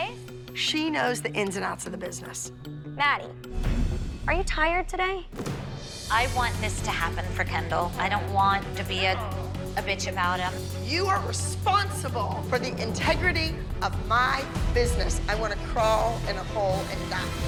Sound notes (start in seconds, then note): none